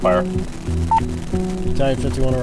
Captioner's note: radio beeps